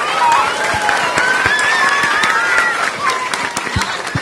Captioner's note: applause